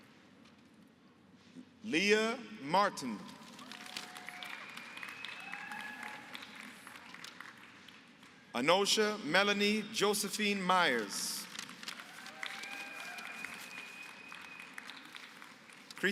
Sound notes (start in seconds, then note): 3.4 applause; 11.3 applause